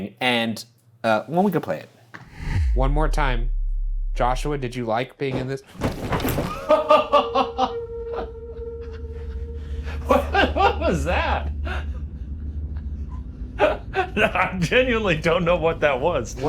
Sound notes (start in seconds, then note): 5.8 something thuds; 7.1 Shane laughing